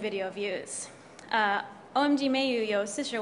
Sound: speaks in Mandarin

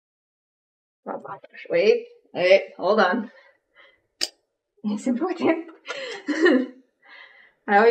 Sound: laughs

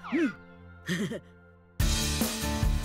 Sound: chuckles

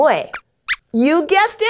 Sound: squeaks squeaks

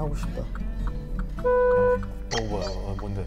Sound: beep

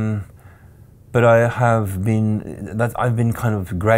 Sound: stuttering

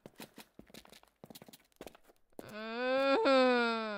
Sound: groans

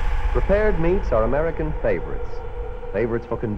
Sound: voiceover

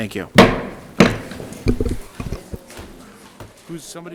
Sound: gavel bangs

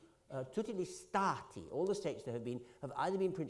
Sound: italian

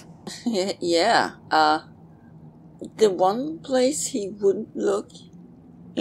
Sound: chuckles

